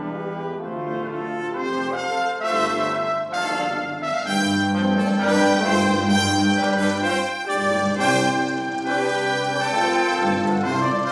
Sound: applause

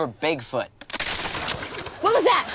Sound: snapping

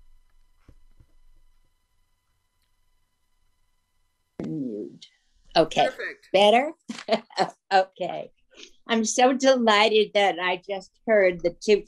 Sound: laughs

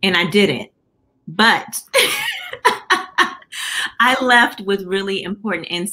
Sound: laughter

